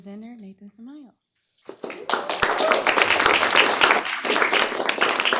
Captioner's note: applause, cheering